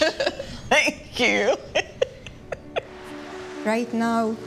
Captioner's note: laughs